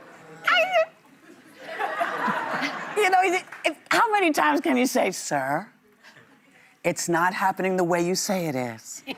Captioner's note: laughter